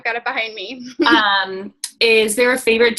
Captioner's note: laughing